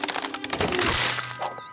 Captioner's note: crac